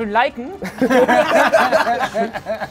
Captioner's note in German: Lachen